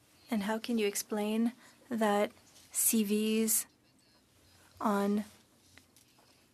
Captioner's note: speaking French